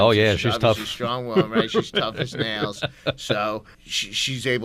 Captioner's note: laughs